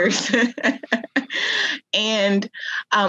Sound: chuckles

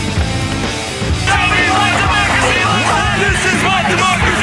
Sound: shouting

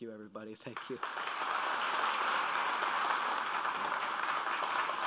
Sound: applauding

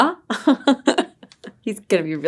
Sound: laughs

